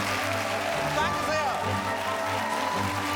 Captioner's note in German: Applaus